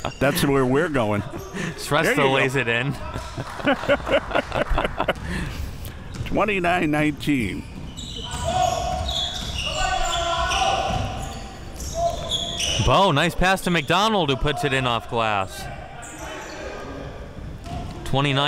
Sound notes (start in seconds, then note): 3.0 laughing; 9.5 players yelling